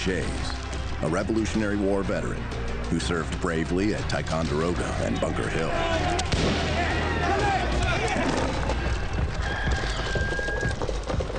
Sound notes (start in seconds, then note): 4.1 voices chattering; 6.2 gun firing; 7.1 people screaming; 8.0 table crashing; 9.3 rooster crowing